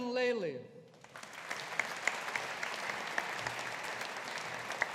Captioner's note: audience applauding